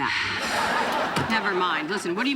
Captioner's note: sighing